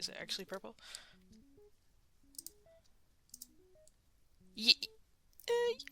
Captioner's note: mouse Clicking; unsure Noises